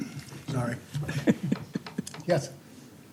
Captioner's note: laughter